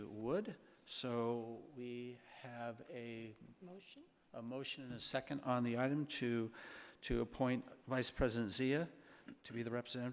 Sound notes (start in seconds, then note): none